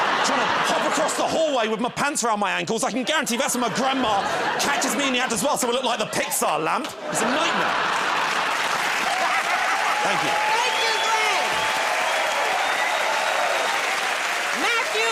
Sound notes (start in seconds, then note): 8.5 laughter and applause; 12.3 cheers and applause